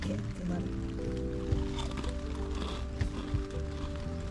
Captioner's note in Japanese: ザクザク